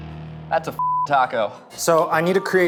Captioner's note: beep